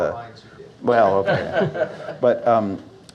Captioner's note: laughter